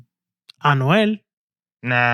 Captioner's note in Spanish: Hablando en idioma extranjero